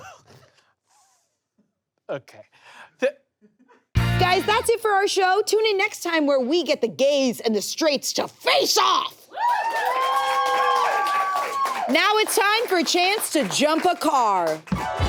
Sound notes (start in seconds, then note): 9.3 audience cheers